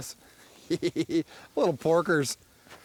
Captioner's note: giggles